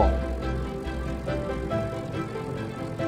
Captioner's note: propeller whirring; upbeat music